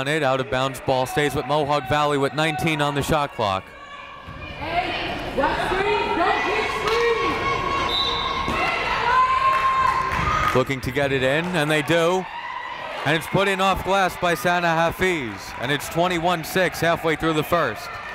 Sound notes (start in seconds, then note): 7.8 whistling blaring